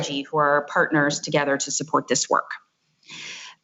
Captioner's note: none